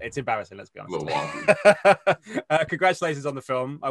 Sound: laughs

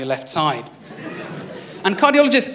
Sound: laughter

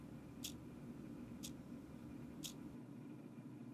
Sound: ticking

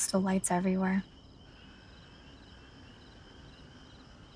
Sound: crickets chirping

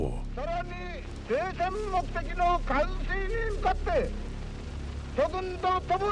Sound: Tojo speaking in foreign language

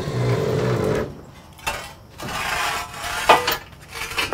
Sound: clunking

